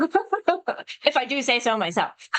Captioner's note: laughs